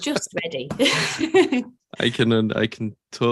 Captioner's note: laughs